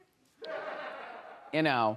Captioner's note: audience laughs